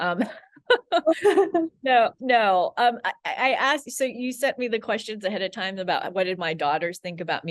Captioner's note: laughs